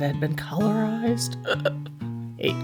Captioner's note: choking sound